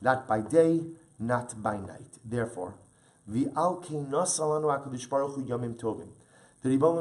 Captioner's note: Hebrew; Hebrew